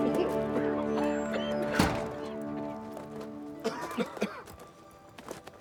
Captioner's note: everyone coughing